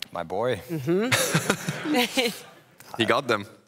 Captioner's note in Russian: смех